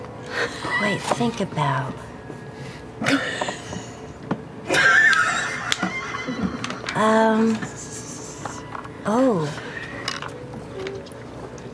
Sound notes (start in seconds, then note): 0.9 laughter; 4.6 laughter